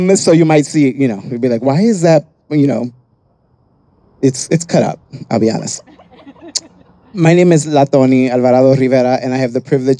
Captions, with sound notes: So you might see, you know, you'd be like, why is that? You know, it's cut up, I'll be honest. (people laughing) My name is La Tony Alvarado Rivera, and I have the privilege